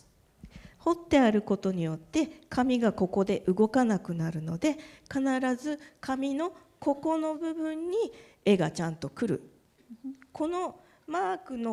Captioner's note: speaking japanese